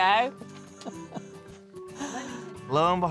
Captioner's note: grandma laughs